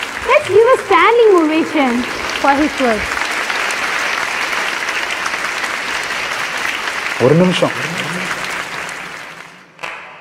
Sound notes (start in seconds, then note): 3.0 audience cheers